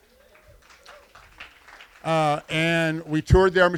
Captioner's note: applause